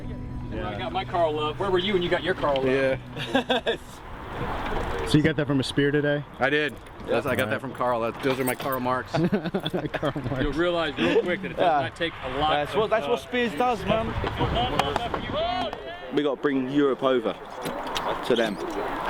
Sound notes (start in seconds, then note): 9.1 chuckling